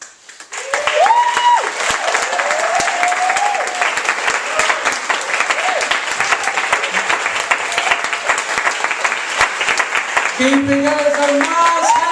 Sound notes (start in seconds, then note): 0.4 cheering and applause